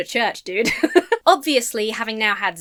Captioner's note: laughs